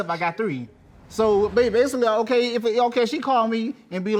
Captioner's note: stammering